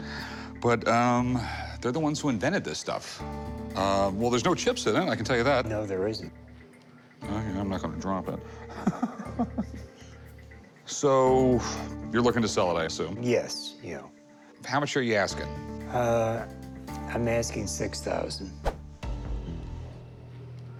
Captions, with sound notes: BUT THEY'RE THE ONES WHO INVENTED THIS STUFF. WELL, THERE'S NO CHIPS IN IT, I CAN TELL YOU THAT. - NO, THERE ISN'T. - I'M NOT GONNA DROP IT. [laughs] SO YOU'RE LOOKING TO SELL IT, I ASSUME. - YES. YEAH. - HOW MUCH ARE YOU ASKING? - I'M ASKING 6,000.